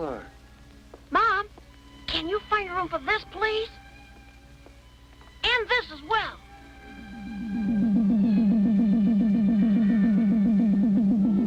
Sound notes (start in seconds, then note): 5.5 radar pulsing